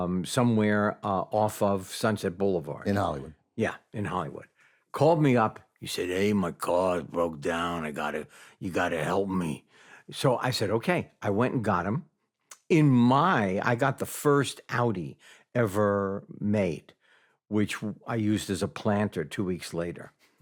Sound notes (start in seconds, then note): 10.0 in normal voice